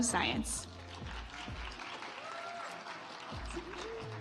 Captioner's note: audience applauds